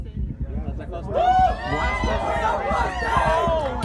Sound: screams!

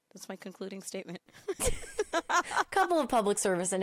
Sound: both laughing

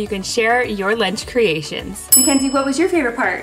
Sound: bell dinging

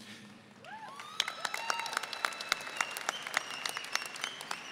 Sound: audience applauding

